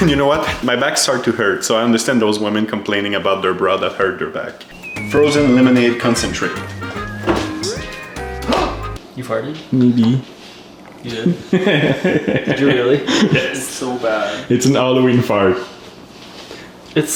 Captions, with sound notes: - You know what? My back started to hurt so I understand those women complaining about their bra that hurt their back. Frozen lemonade concentrate. (gasps) - You farted? - Maybe. - You did? (laughing) Did you really? - Yes. - It's so bad. - It's a Halloween fart.